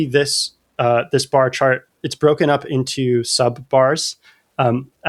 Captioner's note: uh